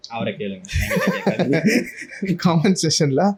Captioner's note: laughing